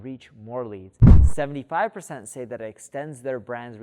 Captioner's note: air whooshing